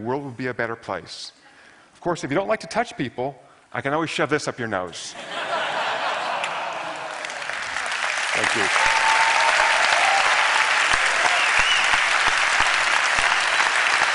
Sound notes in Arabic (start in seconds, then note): 5.3 ضحك; 9.2 تصفيق